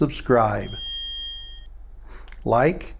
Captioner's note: bell ringing